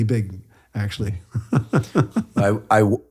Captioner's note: laughs